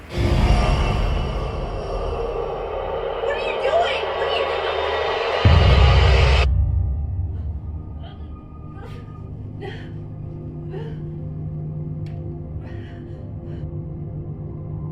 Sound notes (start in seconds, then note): 0.3 tense music; 5.6 booming music; 9.6 Mrs. Barnes grunting